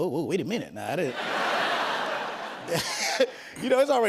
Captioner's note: laughter